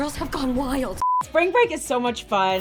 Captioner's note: screen beeps